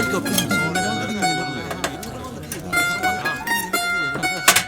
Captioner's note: chattering among members continue